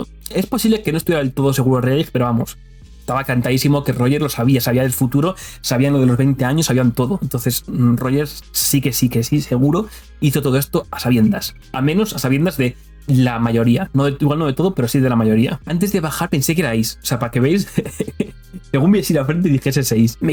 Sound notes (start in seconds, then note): 17.6 laughs